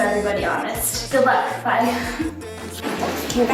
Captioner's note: giggling